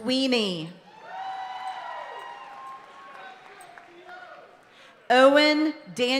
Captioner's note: audience cheering and applauding continues